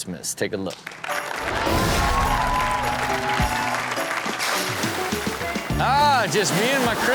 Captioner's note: audience applauding; festive music